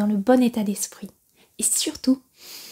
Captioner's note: sniff!